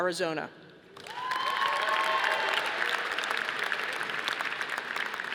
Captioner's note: audience applauding